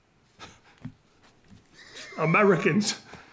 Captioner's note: ray chuckles